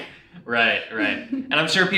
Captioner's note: chuckles